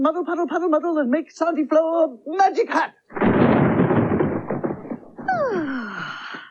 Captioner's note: short Sound Of Thunder